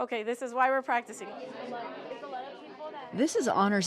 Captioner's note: children chattering